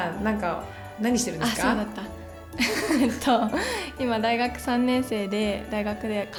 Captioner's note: laughs